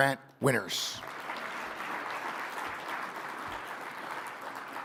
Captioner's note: audience applauding